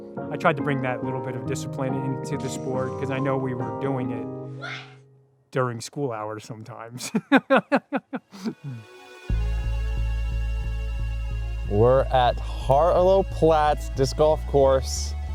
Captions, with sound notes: I tried to bring that little bit of discipline in to the sport because I know we were doing it during school hours sometimes [laughs]. -We're at Harlow Platts Disc Golf Course,